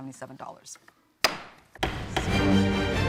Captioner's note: gavel bangs